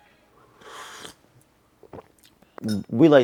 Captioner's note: slurping